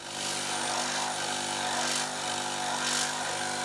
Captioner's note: saw buzzing